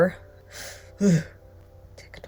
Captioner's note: scoffing